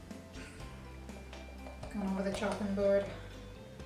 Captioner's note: soft snort